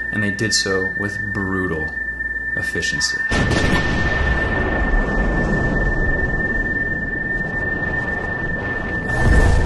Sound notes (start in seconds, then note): 3.4 gunshots; 4.9 haunting music